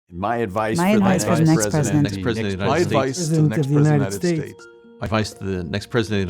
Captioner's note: multiple Voices